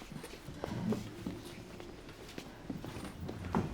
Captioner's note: none